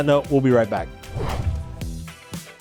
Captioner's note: logo swooshing